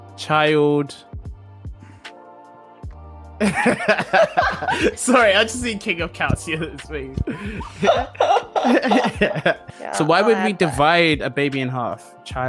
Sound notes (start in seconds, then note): 3.4 laughs; 7.2 all laugh